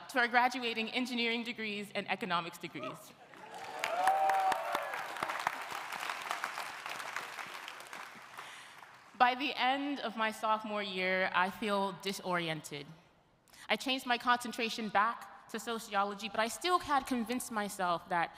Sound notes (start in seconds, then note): 3.3 audience applauding; 3.3 audience cheering